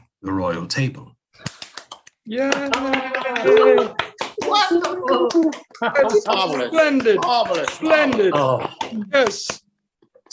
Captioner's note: clapping and cheering; clapping